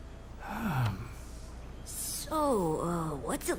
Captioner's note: sighs